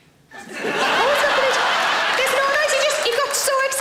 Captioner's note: audience laughs